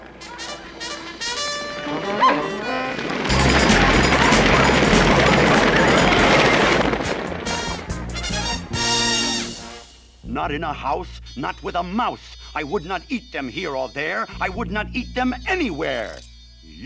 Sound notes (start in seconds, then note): 0.2 fanfare playing; 2.0 gasps